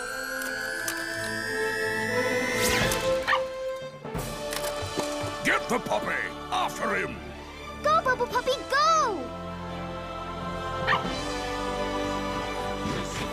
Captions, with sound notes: Get the puppy. After him! Go Bubble Puppy, go! [barking]